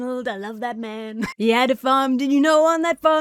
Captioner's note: laughs